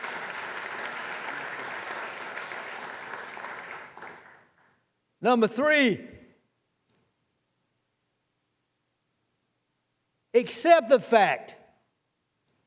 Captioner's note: applause